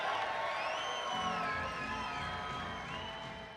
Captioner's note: cheering and applause